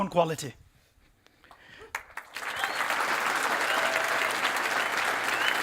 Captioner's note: applause